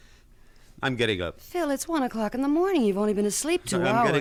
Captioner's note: stammers